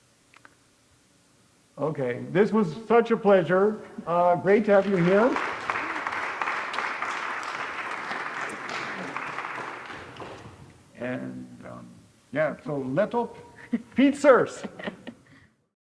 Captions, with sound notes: Okay, this was such a pleasure, great to have you here. (audience clapping) And yeah, so let op fietsers.